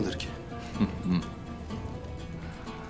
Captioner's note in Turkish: Gülme sesi